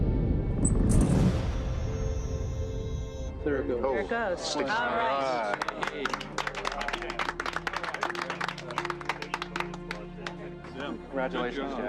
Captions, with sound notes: to start the engine, started the engine. It worked great. (low rumbling) - There it goes. - There it goes. All right! (team clapping)